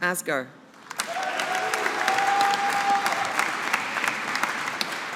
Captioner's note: audience applauding